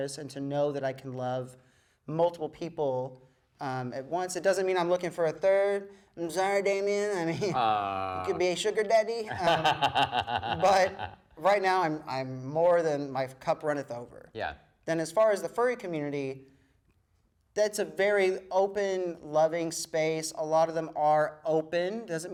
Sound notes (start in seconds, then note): 9.2 laughs